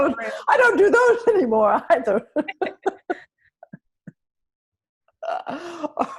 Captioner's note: laughter; laughter; laughter